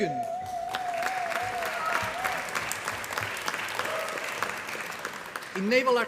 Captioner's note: applause